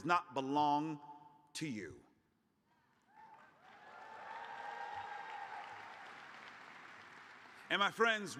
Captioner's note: cheers and applause